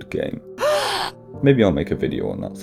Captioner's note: gasps